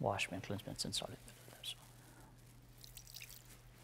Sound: whispering

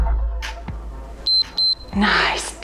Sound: timer beeps

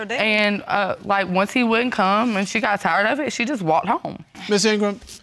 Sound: none

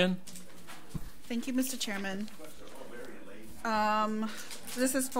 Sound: overlapping chattering

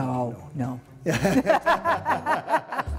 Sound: laughter

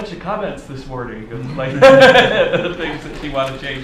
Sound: laughs

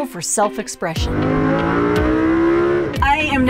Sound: engine revs

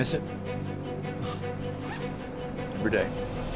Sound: laughs

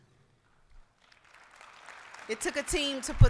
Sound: applause

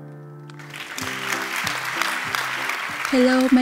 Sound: applause

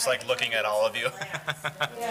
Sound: laughing

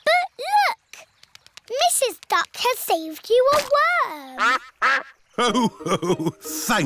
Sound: quacks

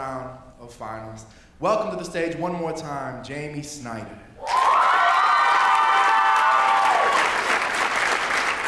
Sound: applause

